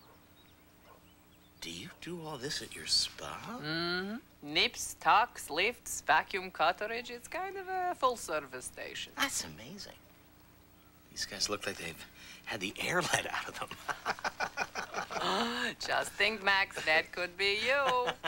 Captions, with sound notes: DO YOU DO AL■ THIS AT YOUR SPA? MM-HMM. NIPS, TUCKS, LIFTS, VACUUM CURETTAGE. IT'S KIND OF A FULL-SERVICE STATION. THAT'S AMAZING. THESE GUYS LOOK LIKE THEY'VE... HAD THE AIR LET OUT OF THEM. [ALL LAUGH] JUST THINK, MAX.